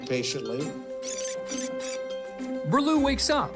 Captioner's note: tape fast-forwards